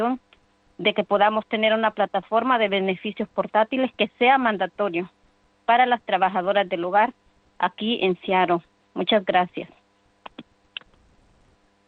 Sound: speaking spanish

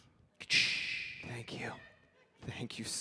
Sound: wind and thunder sound mimic

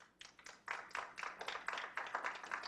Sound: clapping

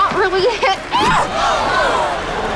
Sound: gasping

